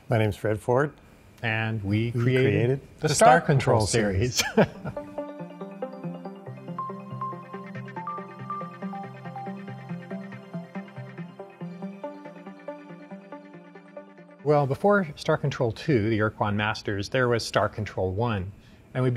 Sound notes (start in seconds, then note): 4.3 chuckling; 5.2 techno music